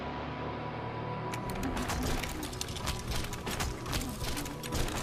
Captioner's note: objects clattering